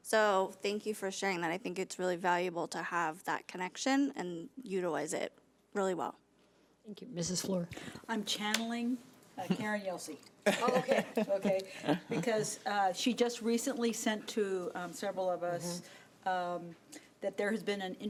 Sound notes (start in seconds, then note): 10.4 laughing